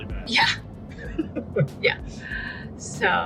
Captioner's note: laughs